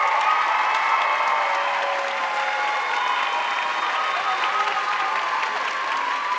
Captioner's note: audience cheering and applauding